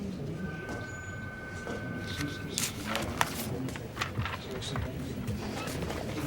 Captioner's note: people chattering; phone ringing